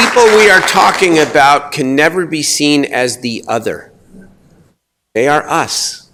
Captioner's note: applause